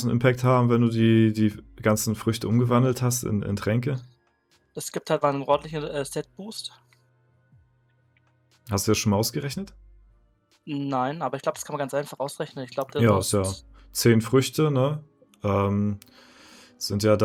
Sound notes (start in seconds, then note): none